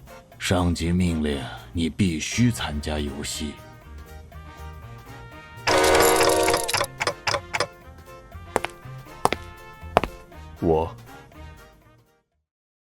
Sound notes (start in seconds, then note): 8.5 sound of footsteps